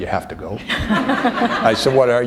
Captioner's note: laughter